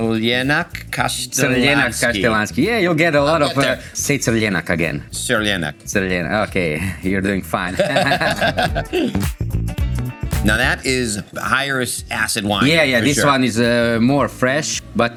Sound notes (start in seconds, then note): 7.6 laughing; 9.3 upbeat music